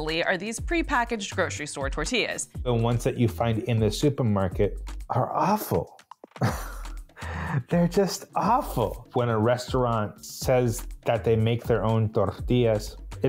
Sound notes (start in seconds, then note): 6.3 chuckles